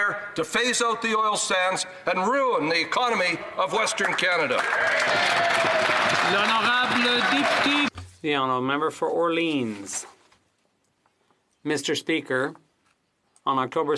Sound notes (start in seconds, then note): 8.8 applause; 9.6 speaking French